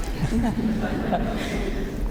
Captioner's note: laughter